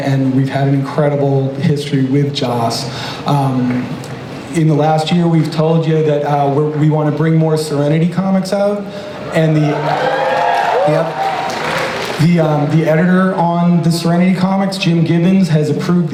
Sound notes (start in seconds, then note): 9.2 crowd cheers